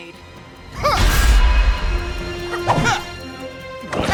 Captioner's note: wincing